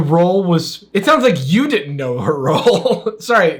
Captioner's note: laughs